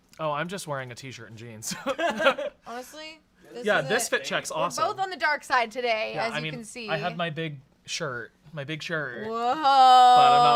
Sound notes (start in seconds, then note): 1.7 laughs